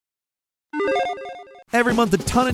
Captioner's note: logo beeping